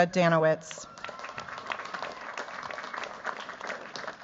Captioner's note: cheers, applause